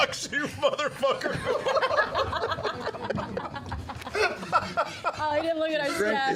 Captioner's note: laughter